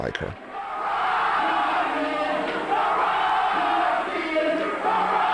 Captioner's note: cheering and chanting